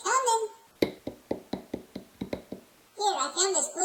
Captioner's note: footsteps